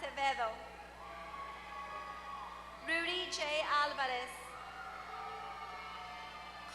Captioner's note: applause